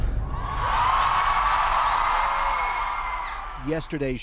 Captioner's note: crowd cheers